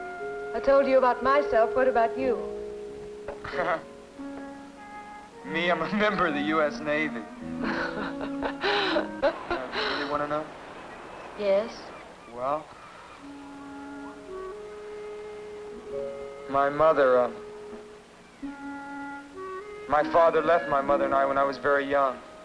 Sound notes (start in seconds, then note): 3.3 gentle chuckling; 7.5 gentle chuckling; 12.8 gentle music